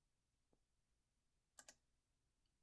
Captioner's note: click